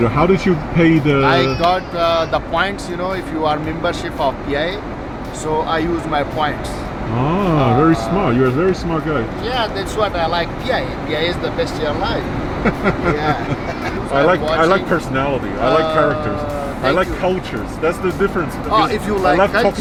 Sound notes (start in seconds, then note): 12.5 chuckles